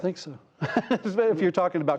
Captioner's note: laughter